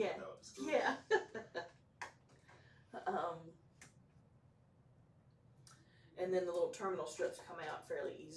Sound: laughs

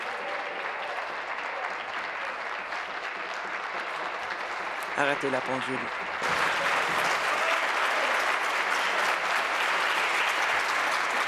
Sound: applause

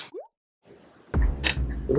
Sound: water drip sound effect

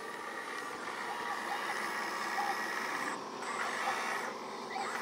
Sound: robotic sounds

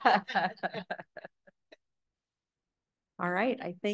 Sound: laughter

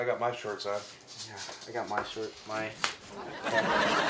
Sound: elastic snaps; audience laughs

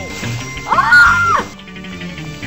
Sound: screams

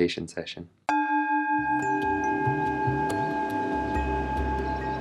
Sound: bells chiming

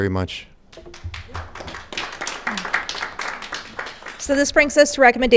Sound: audience applauding

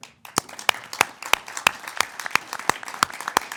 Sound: claps

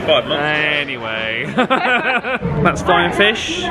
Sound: laughs

